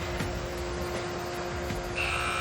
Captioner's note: furnace whirring; tense music